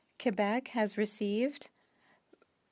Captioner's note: speaking French